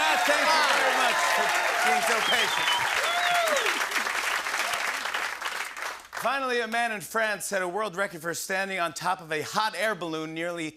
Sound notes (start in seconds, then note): 3.3 cheers and applause